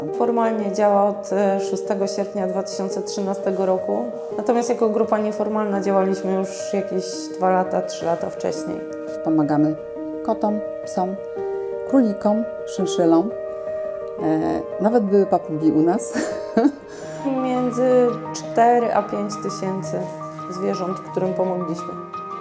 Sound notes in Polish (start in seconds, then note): 16.1 śmiech